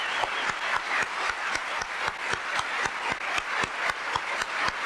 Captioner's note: applause